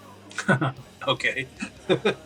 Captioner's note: laughs